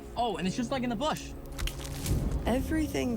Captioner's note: branch snapping